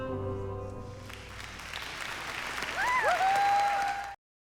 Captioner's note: song ends; crowd cheering